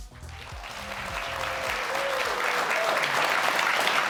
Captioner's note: audience clapping